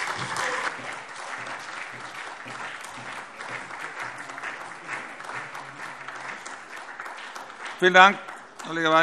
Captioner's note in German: Beifall SPD